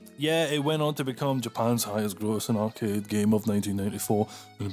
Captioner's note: deep Sexy voice